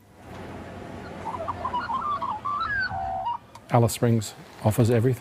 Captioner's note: birds chirp